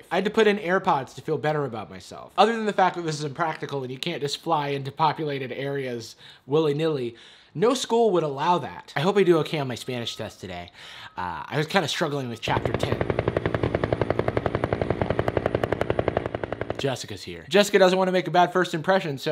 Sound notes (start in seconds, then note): 12.4 helicopter whirring